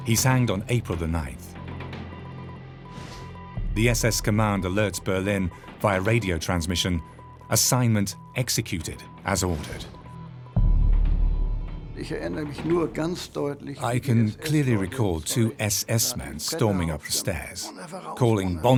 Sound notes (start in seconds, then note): 9.9 radio beeps; 11.9 speaks in foreign language